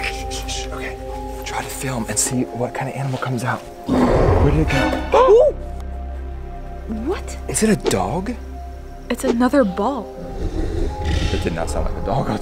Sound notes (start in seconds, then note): 3.6 dramatic tune; 3.8 roaring; 10.2 growling